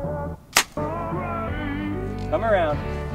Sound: soft popping noise

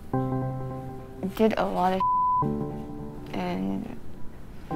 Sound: beep

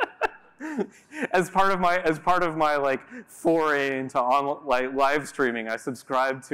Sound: giggle

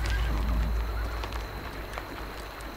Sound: horse neigh

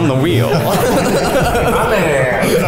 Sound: all laugh

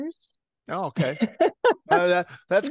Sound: laugh

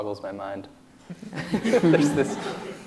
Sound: laughs

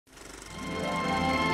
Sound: whirring

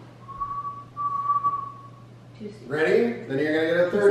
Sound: whistles

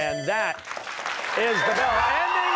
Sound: bell ringing

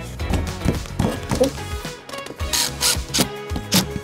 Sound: upbeat music; tapping panel; drill buzzing; upbeat music

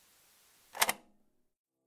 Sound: click

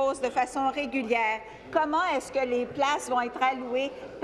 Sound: speaking in French

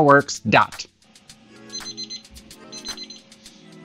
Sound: beeping

